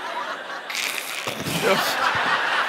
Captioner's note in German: Kreatur faucht